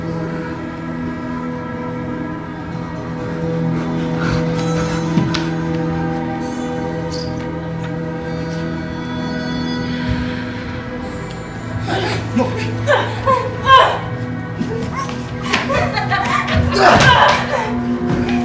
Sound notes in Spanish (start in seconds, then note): 11.8 Gruñidos; 14.6 Risas